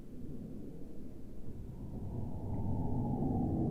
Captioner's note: wind howling